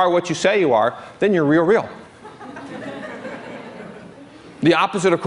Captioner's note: laughter